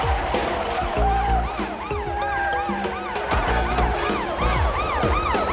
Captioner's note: police sirens